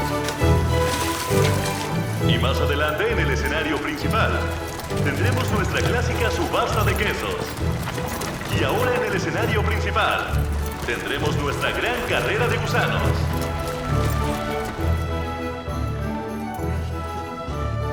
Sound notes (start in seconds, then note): 2.2 slow orchestral music continues; 5.6 water splashes